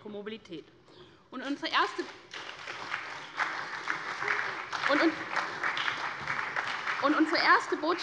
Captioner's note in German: Beifall bei der SPD